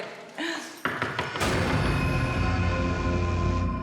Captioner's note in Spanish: toques en la puerta